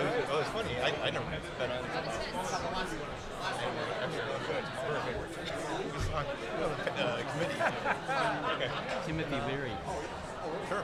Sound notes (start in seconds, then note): 1.8 crowd chattering; 6.8 laughing